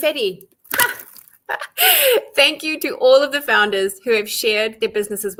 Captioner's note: laughs